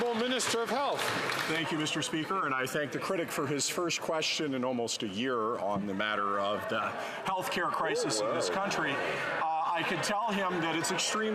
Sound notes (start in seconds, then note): 3.1 some Applause